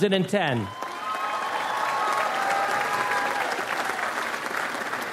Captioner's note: audience applauds